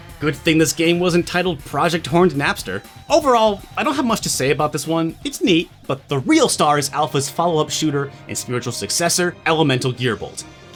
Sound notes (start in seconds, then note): none